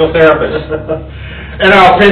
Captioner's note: laughs